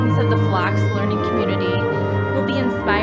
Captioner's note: none